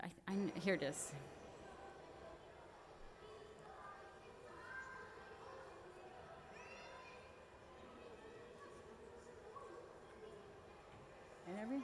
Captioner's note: background conversation